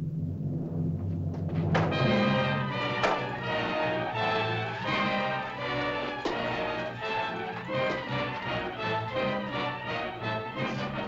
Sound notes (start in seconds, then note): 1.6 suspenseful music; 3.0 staffs bang; 8.1 suspenseful music